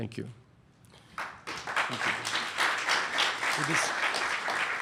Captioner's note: applause